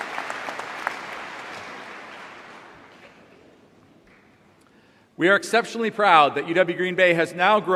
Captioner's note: applause